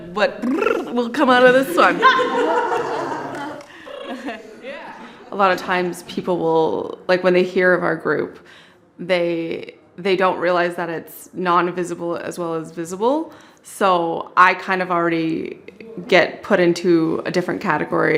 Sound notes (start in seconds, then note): 0.4 trills; 1.4 laughter